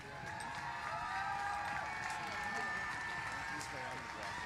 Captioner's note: cheers and applause